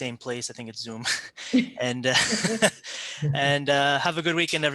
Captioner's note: laughs